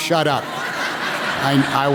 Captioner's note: laughter